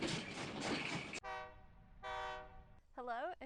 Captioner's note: horn blows